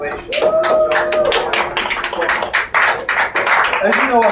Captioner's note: crowd cheers and claps